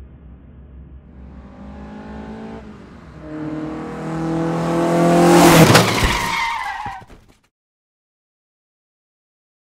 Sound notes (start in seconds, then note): 0.0 car approaching; 4.4 car crash